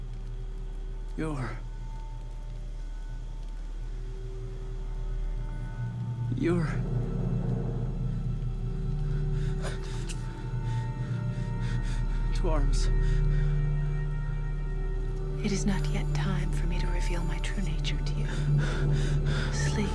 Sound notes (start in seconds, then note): 7.9 dramatic suspenseful music; 10.0 Home panting; 13.8 panting